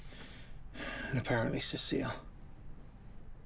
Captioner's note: sighs